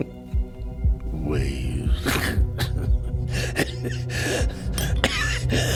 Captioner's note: scoffs